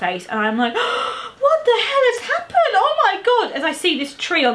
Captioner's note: gasps